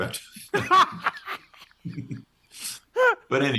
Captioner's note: both laughing